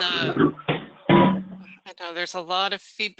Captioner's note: furniture clinks